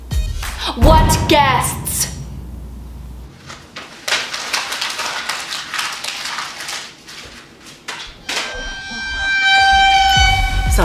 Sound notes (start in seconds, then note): 3.4 paper crumples; 8.5 dramatic Violin